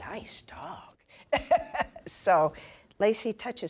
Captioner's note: laughs